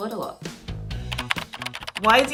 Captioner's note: keyboard clacking